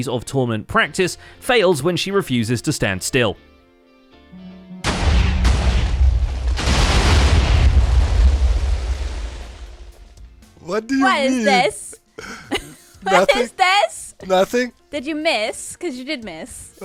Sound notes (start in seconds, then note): 4.0 nervous; 4.3 note blocks; 4.8 explosions